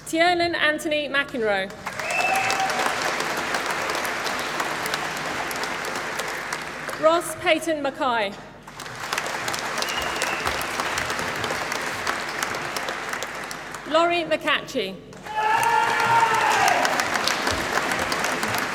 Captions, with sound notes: Tiernan Anthony McEnroe. (APPLAUSE) Ross Paton Mackie. (APPLAUSE) Lori McLatchie. (APPLAUSE)